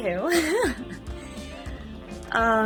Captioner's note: giggles